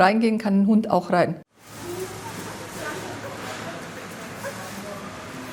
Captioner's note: supermarket sounds - rattling carts